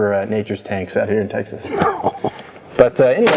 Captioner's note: laughs